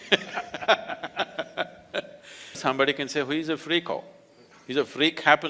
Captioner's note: laughs